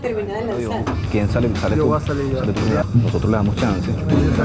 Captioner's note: chattering